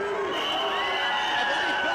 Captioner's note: whistle blowing; crowd cheering